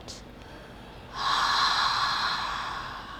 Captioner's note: loud sigh